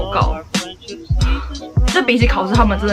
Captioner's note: sigh